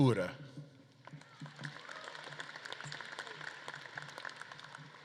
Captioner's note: audience claps